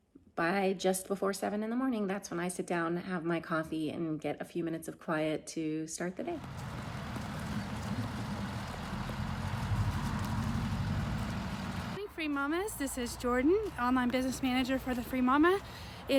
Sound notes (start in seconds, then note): 6.6 bus engine running